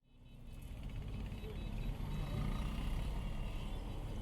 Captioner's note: distant traffic noise